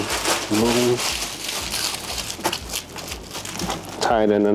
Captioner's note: bag rustling